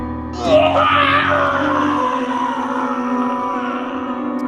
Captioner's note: Ted screaming